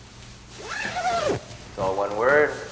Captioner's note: white suit zipping